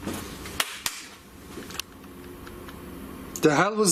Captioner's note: loud slapping